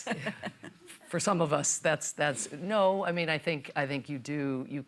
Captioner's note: laughs